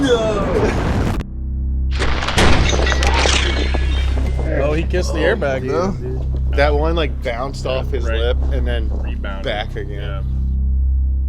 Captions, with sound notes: (air bag exploding) (glass breaking) - Oh, he kissed the airbag though. - That one like bounced off his lip and then - Rebounded. Yeah. - back again.